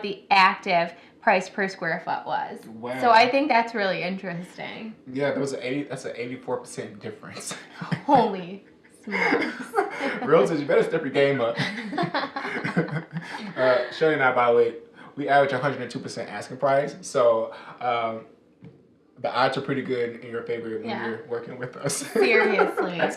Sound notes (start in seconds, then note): 11.9 both laughing